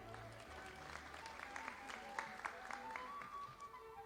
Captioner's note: audience applauding